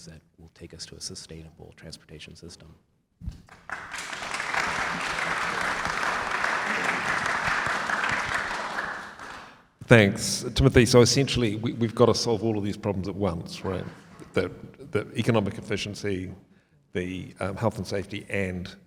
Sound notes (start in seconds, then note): 3.4 audience applauds